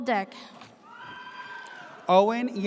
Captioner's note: audience cheers